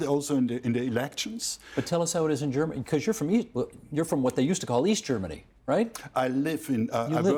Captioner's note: german